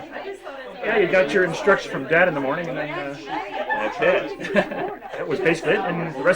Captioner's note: crowd laughters; laughs; laughs